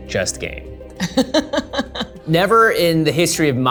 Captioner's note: laughs